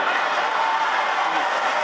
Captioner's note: audience cheering; audience cheering drowning out talking